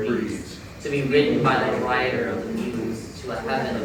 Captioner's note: in Unison